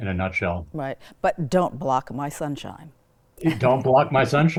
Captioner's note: laughs